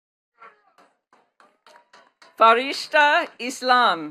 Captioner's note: attendees clapping